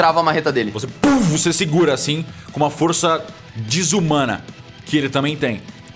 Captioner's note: pow